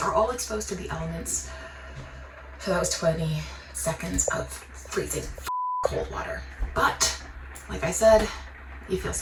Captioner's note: beep